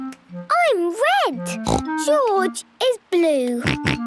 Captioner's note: snorts; George snorts